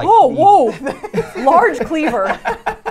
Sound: laughs

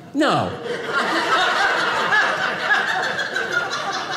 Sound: audience laughing

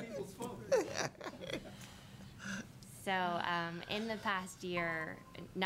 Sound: laughing

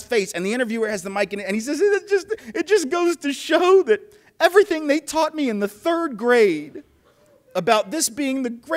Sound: weepy voice

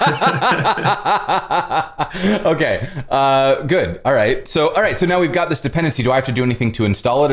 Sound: laughter

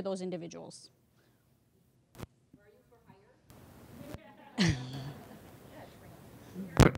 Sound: laughter

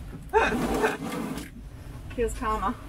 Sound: laughs

